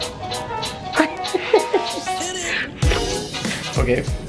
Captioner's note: laughter